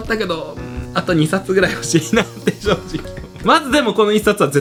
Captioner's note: laughs